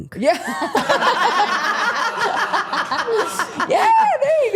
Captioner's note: everyone laughing